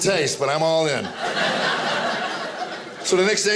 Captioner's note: audience laughing